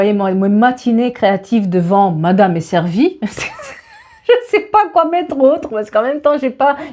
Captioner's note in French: rires